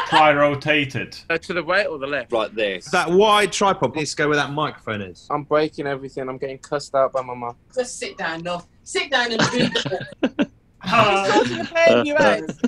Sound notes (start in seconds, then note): 9.3 laughing